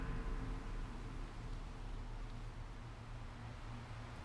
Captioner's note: tense suspenseful music fades; wind whooshing softly